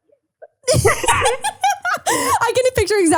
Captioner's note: laughing